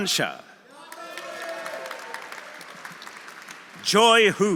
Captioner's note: audience cheering; audience applauding